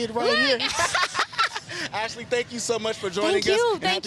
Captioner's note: both laughing